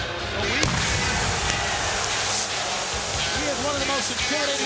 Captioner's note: pyro bangs